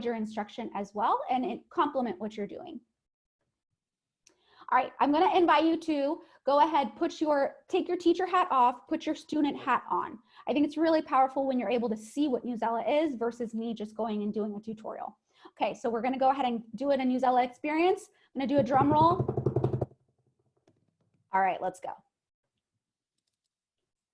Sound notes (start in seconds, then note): 18.5 pounding on the table